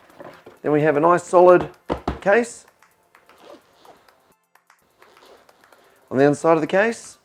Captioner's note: knock knock